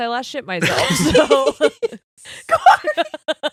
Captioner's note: laughing